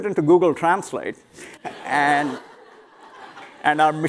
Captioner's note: laughter